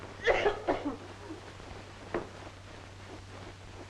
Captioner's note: Minerva coughing